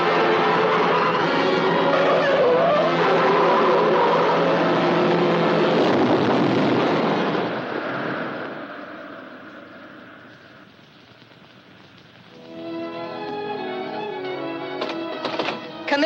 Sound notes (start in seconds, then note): 5.9 truck booms; 12.4 dramatic music